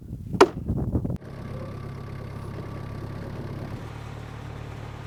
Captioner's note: wood clunking; engine roaring